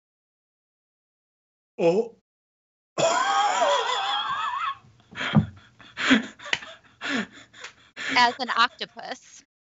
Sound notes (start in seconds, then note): 3.0 laughs